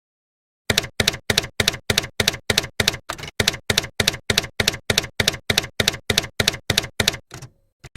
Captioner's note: typewriter keys clacking